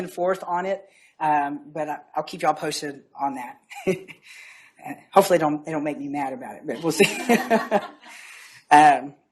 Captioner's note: laughs